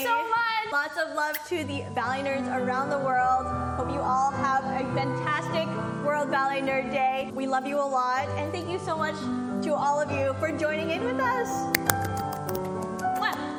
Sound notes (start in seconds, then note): 11.8 smack; 11.8 clapclapclapclap